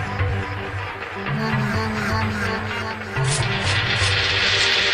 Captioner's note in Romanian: Aplauze